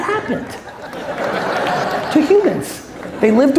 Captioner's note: audience laughs